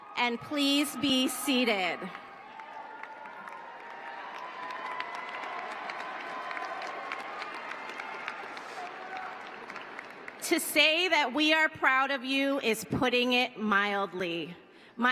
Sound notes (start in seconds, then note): 3.7 cheering